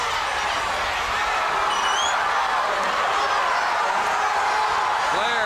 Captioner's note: crowd cheering